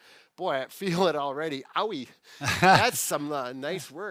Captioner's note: chuckles